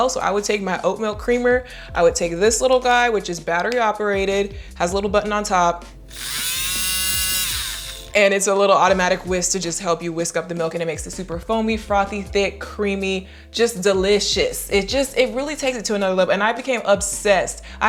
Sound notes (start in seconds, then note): 6.0 buzzing